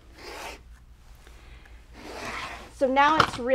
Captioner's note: rotary cutter slicing